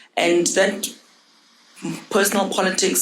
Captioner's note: none